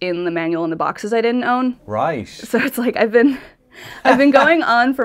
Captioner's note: laughs